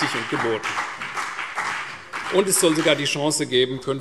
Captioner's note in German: Beifall CDU und BÜNDNIS 90/DIE GRÜNEN